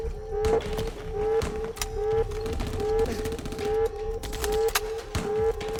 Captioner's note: gunfire pops in the distance